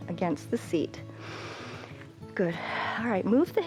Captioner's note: inhales